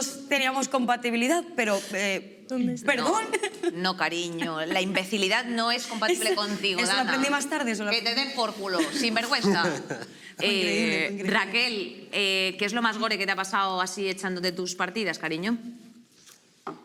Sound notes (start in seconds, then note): 8.8 laughs